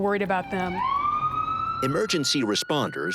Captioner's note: ambulance siren